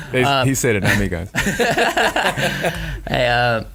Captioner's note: laughing